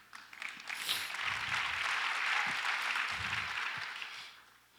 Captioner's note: audience applauds